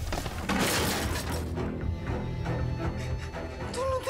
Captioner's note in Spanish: estruendo